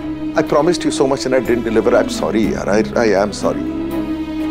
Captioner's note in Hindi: none